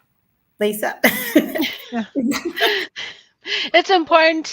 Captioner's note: laughter